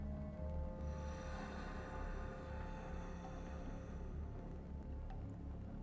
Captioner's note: Abberton exhales deeply